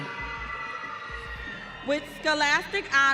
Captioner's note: audience cheering